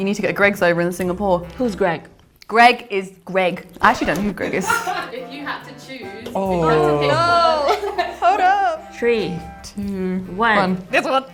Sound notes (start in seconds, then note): 4.8 distant laughing